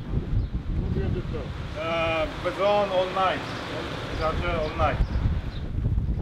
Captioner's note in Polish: rozmowa w j. angielskim